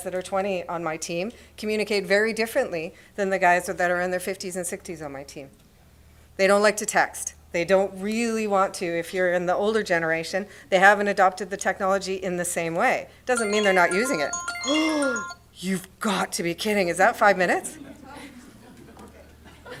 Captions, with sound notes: are twenty on my team communicate very differently than the guys that are in their 50s and 60s on my team. They don't like to text. They don't really want to, if you're in the older generation, they haven't adopted the technology in the same way. Doesn't mean they're not using it-- [Alarm rings]. You've got to be kidding. Is that five minutes?